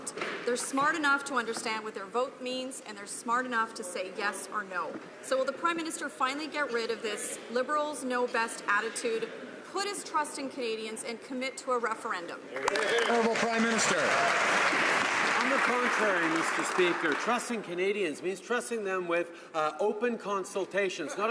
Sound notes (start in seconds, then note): 15.8 some Applause